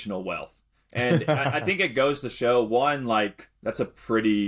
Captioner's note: chuckles